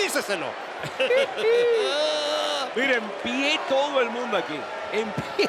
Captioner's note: laugh